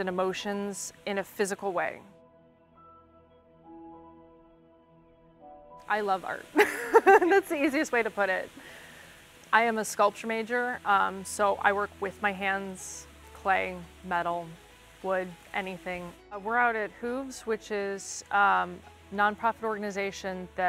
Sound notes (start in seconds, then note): 2.5 peaceful music; 6.5 laughs